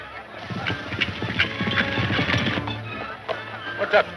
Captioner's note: dramatic music; horse galloping